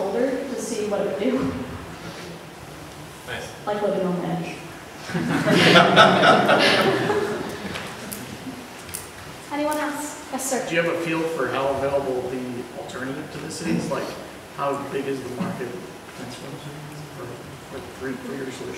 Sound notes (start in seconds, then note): 5.0 laughter